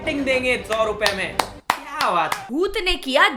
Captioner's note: claps